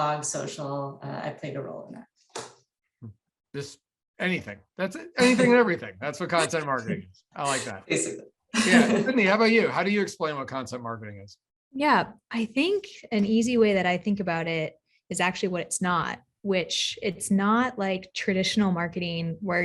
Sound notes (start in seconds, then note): 8.5 chuckles